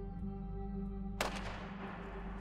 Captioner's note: gunshot